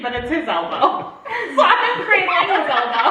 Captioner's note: all laugh